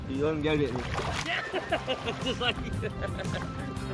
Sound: laughter

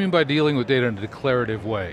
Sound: both conversing

